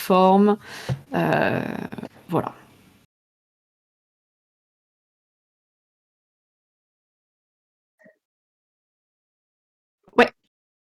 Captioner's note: silence